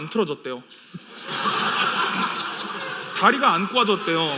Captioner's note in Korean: 웃음